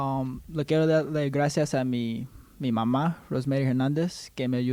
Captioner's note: speaking Spanish